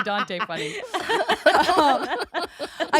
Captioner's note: all laughing